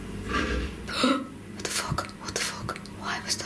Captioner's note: electronic whirring; gasping